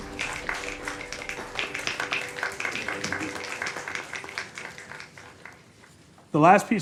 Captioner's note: applause